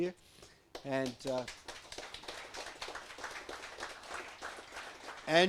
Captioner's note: audience applauds